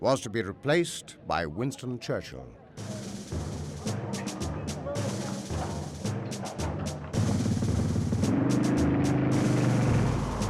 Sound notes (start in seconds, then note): 2.8 martial music; 3.9 vehicles rumbling